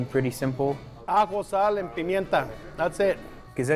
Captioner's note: in Spanish